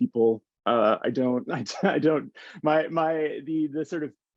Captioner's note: chuckles